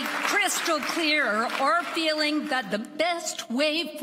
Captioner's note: applause